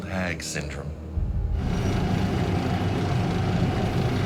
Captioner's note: motor running